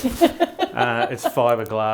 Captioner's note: laughing